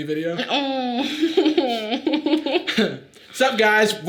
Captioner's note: laughs